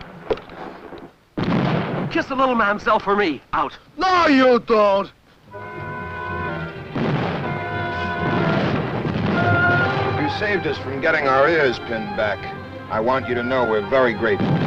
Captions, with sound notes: [explosion] Kiss the little mademoiselle for me, out. - No, you don't. [vintage music] - You saved us from getting our ears pinned back. I want you to know we're very grateful.